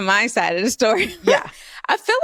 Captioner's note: laughs